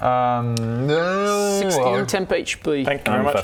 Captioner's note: alien cow sheep noises